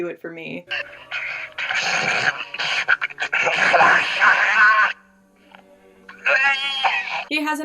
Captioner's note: insane horny babbling over the phone